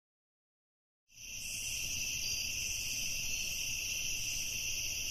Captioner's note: crickets chirping